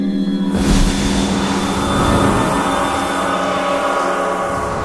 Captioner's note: sizzling incinerating